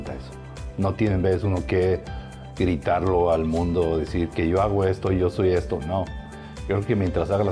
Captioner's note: continues speaking in foreign language